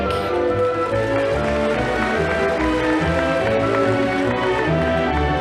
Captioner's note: audience applauding